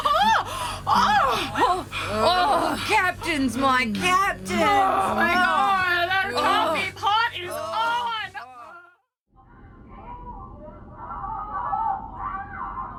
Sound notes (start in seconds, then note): 1.2 The buzzing continues as Aurelia, Mo, and Sim’s moan and groan; 4.6 sex noises are heard echoing through a service tube